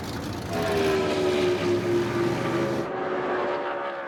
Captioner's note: engines roar